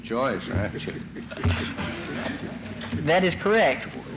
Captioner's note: laughter in the courtroom